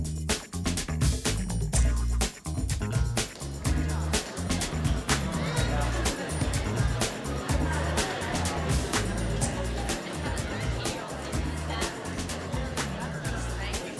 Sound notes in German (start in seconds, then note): 0.0 schnelle Musik; 3.5 Stimmengemurmel im Theaterpublikum